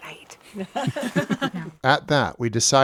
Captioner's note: all laughing